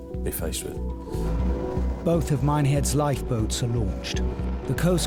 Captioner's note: lifeboat engine whirring